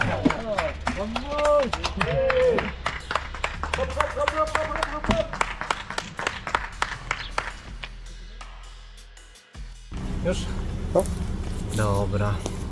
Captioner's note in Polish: Aplauz